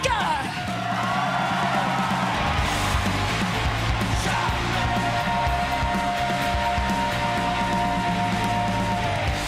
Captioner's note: crowd cheering